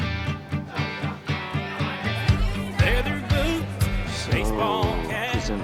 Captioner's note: patrons chattering